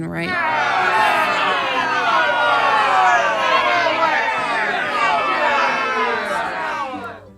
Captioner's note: crowd groaning